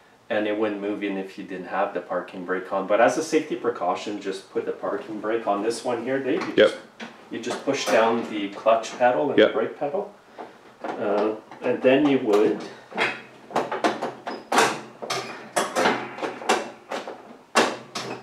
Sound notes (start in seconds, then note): 13.5 levers clanking